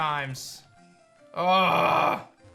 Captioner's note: grunts